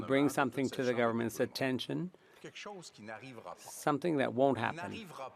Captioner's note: speaking French